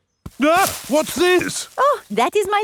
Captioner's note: exclaims